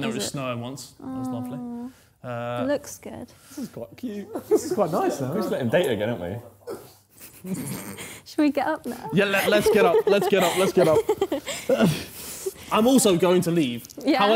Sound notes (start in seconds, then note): 7.4 snorting; 7.5 chuckling; 11.7 laughing